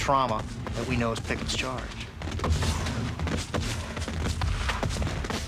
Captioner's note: guns firing; eerie music